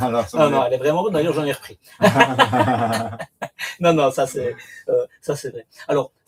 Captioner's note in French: rires